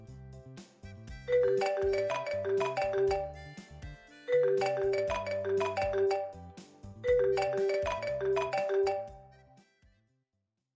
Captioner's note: phone-ringing